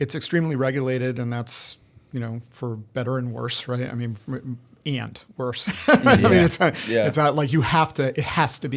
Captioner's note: laughter